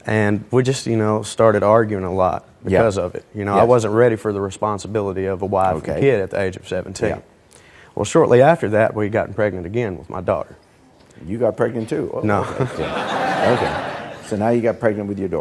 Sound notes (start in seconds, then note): 12.3 audience laughing